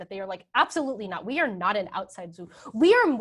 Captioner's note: speaking in a foreign language